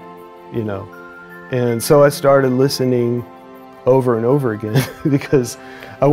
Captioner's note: chuckles